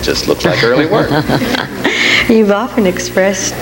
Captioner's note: laughs